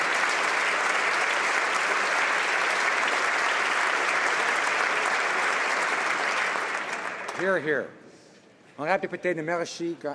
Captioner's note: applause